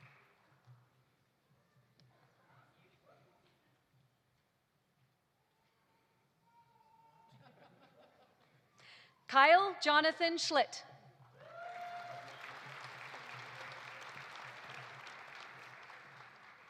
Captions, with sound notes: (audience laughing) Kyle Jonathan Schlitt. (audience applauding) (audience cheering)